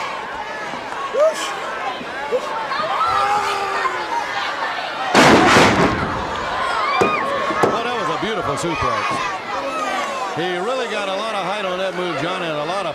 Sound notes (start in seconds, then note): 2.5 crowd chatter